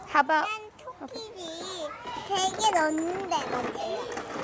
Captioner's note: speaks korean